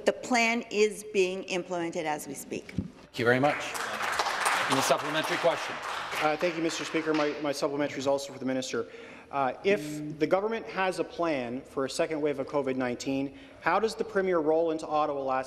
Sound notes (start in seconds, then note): 6.4 some Applause